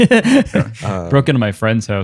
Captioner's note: laughter